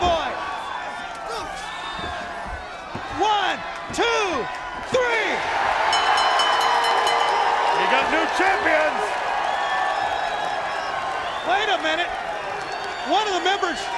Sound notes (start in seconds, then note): 4.9 crowd cheering; 5.9 bell ringing; 9.5 crowd chatter